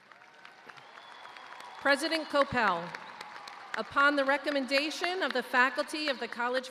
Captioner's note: cheers and applause